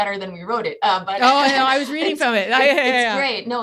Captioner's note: laughs